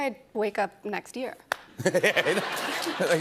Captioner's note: laughter